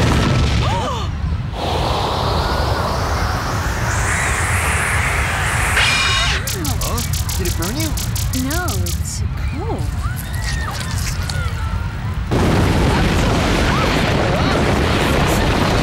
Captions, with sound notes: - Ah! - Huh? Did it burn you? No, it's cold. [explosion]